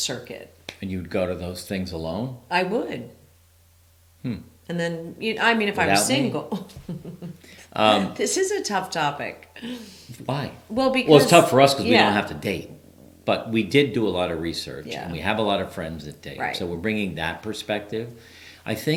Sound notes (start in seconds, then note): 0.9 claps; 5.9 chuckles